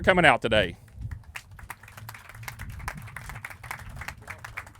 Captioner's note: clapping